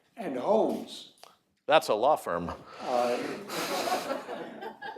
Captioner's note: laughter